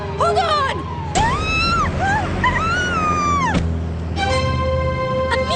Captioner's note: screaming